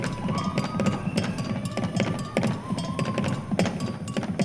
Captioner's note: audience cheering